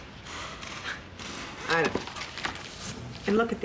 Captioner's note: sighs